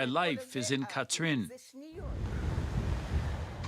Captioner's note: foreign language